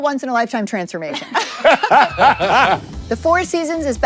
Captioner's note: everyone laughs